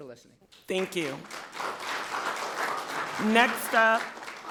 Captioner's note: people clapping